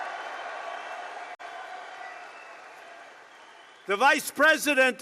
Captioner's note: applause